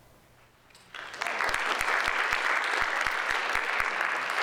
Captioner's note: audience applauds